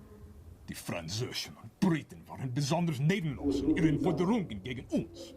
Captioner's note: speaks in foreign language